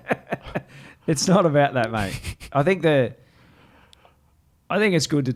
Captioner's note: laughs